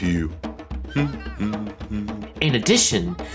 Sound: humming

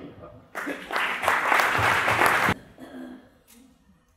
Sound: applause

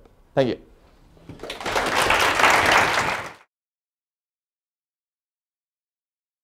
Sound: applause

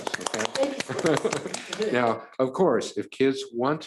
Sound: audience clapping

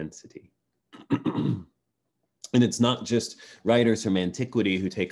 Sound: clears throat

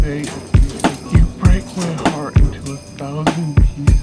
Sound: door locking

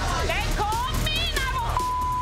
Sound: beep

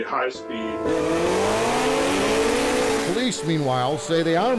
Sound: engines revving

